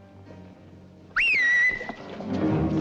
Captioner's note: whistles